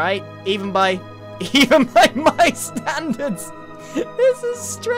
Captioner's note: laughs